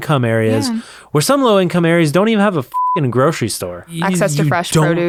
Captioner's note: beep